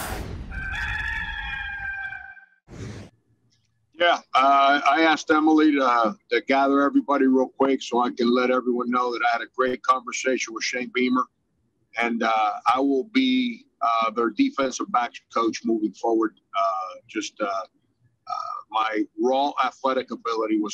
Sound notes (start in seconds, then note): 0.5 cock crowing